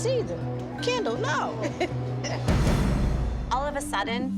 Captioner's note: laughs